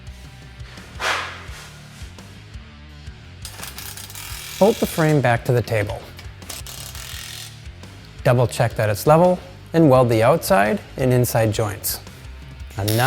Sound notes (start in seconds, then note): 0.9 blows